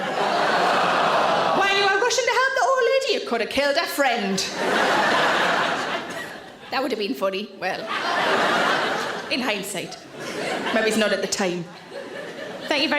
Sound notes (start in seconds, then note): 0.0 audience laughs; 0.2 people groan; 4.4 audience laughs